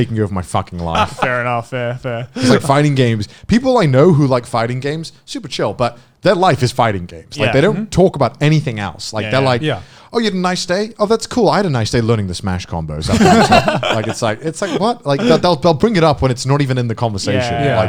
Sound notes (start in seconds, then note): 13.0 laughing